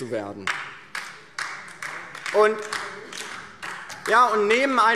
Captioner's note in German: Beifall DIE LINKE